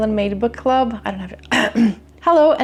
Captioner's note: mumbles, clears throat